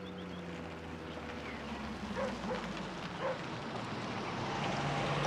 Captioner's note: dog barking